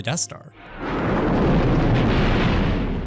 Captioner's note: explosion